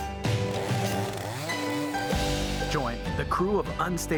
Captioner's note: chainsaw buzzing; relaxed music continues